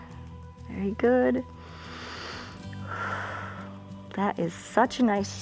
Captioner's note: inhales and exhales